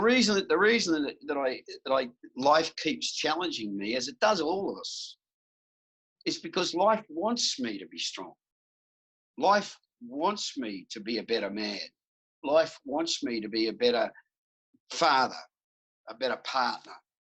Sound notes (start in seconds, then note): none